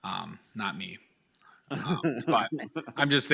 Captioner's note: people chuckle